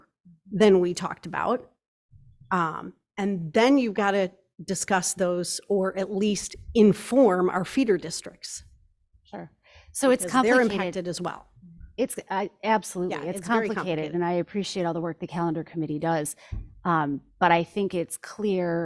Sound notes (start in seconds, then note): none